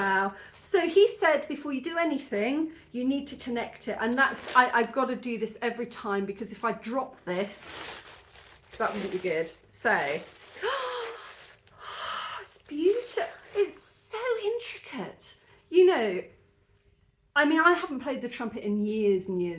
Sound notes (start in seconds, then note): 11.7 gasp